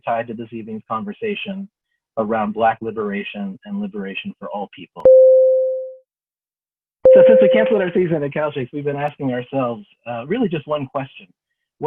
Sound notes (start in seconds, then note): 5.1 bell rings